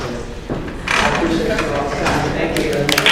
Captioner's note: creaking